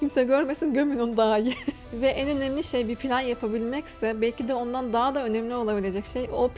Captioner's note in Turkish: kahkaha